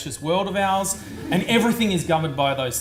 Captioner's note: audience laughs